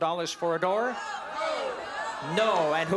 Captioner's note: audience shouting